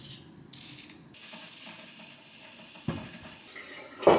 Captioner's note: boiling water in the kettle